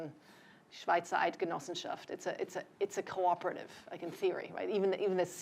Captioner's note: non-english speech